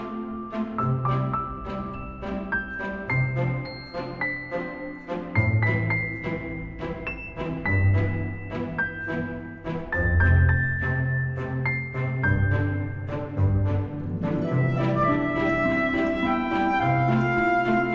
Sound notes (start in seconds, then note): 4.1 applause